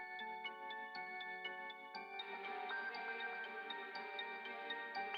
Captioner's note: gently chiming bells